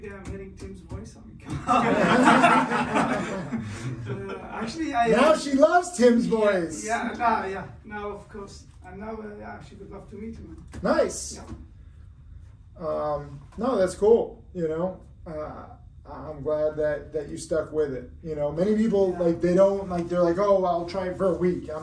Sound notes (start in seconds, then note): 1.5 everyone laughing